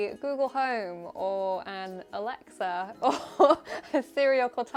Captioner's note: laughs